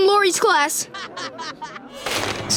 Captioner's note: laughing